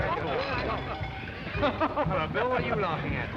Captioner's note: laughing